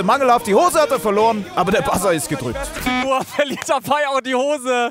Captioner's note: Piepen